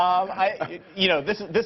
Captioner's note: laughter